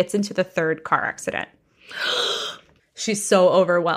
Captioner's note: gasps